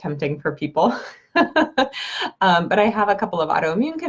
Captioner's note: laughs